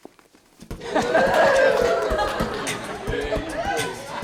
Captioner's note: cheering and beatboxing